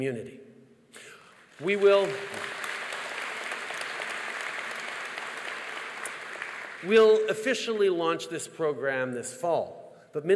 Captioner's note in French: Applaudissements